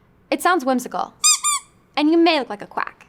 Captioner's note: squeak